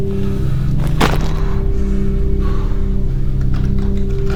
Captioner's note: body thuds